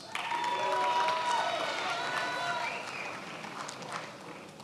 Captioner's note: attendees applauding